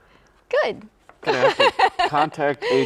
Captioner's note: laughs